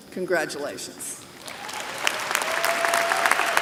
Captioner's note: applause